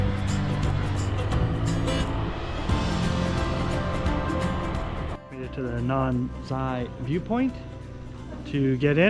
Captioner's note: engine humming; upbeat music